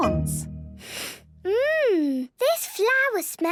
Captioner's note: sniffs